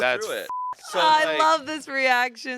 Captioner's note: beep